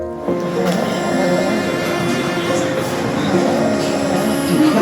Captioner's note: snoring